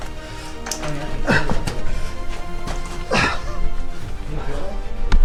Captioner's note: cheerful music; panting; dramatic music